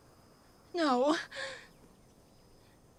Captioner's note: sobs